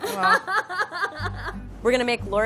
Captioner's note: laughing